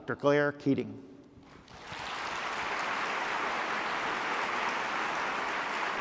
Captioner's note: applause